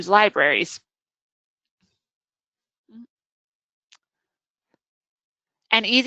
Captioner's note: silence